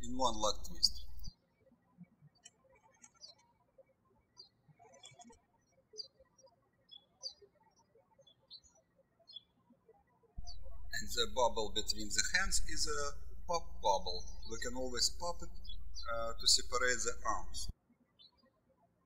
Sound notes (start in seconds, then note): 2.9 birds chirping; 18.8 birds chirping